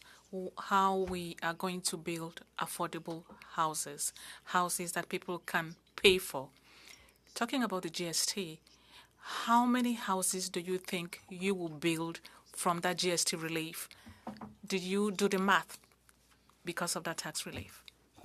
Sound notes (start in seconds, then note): 7.6 speaking French